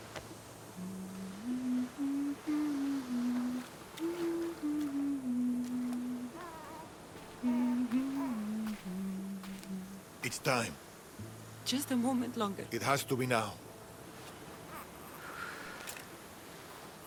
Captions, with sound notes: (humming) It’s time. Just a moment longer. It has to be now.